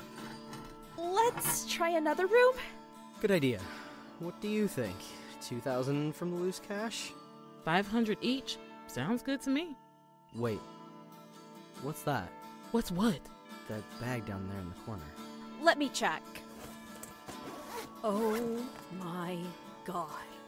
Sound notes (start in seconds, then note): 0.0 gun slides across shelf; 16.4 bag unzips